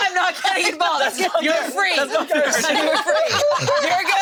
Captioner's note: group laughing